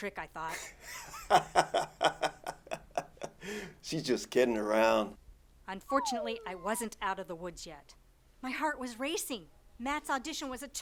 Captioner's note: laughing